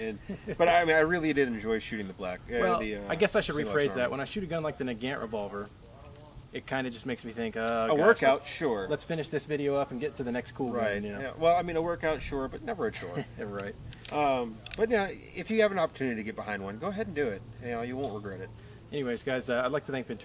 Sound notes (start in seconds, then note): 12.8 laughs